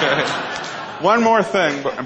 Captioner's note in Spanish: Risas